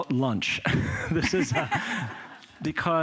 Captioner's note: laughter